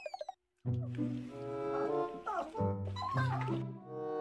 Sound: sobbing

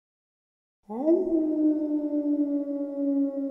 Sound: howling

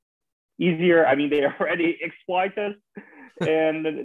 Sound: chuckling

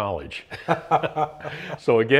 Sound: both laughing

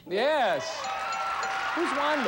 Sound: audience applauding

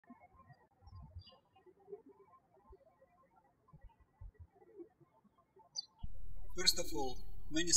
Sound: birds chirping

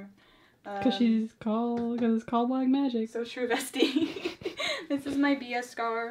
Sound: laughs

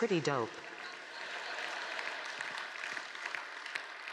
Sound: applause; laughter

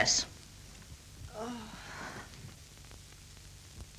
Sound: groans

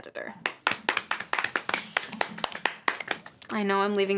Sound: kids clapping

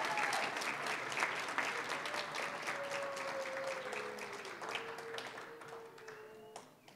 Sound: applause, cheering; applause

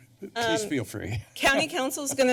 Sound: laughs

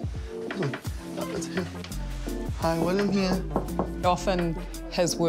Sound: knocks on door

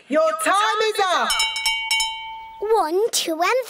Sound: rings bell

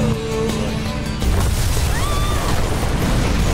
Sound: screams

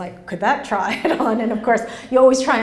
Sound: laughs

